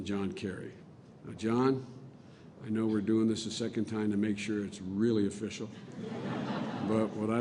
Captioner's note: laughter